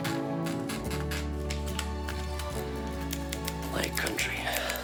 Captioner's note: keys clacking